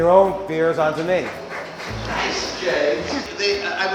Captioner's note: clapping